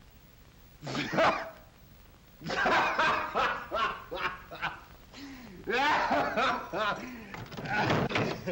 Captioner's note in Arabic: يضحك بصوت عالي